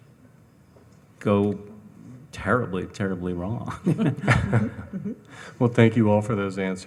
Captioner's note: laughs